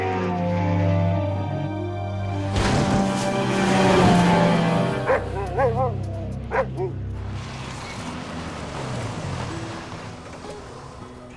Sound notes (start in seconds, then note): 5.0 Buck barking; 8.6 peaceful music